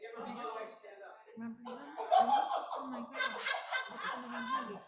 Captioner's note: laughter